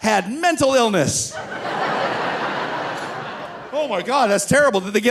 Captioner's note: audience laughing